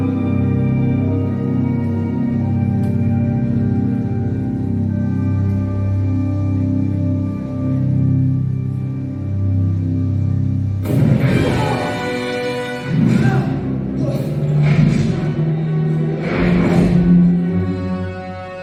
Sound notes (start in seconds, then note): 10.7 spike sounds; 16.7 suspense music